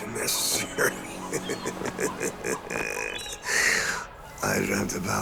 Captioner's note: chuckles